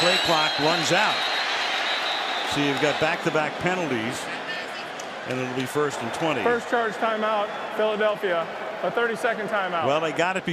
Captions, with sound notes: And that play clock runs out. [whistle] So you've got back-to-back penalties. And It'll be first and 20. First charged timeout, Philadelphia, a 30-second timeout.